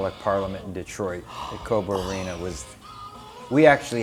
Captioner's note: gasps